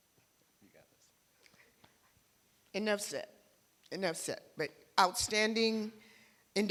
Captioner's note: none